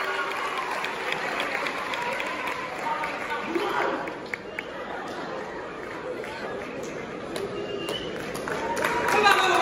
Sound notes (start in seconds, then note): 7.4 whistle; 8.6 claps & Applause